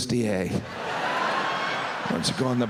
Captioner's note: audience laughs